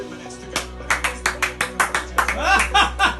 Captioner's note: clapping; laughing